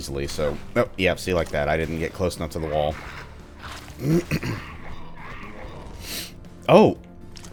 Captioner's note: clears throat